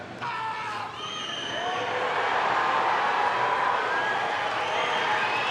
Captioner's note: audience cheering